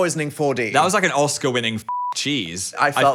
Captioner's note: beep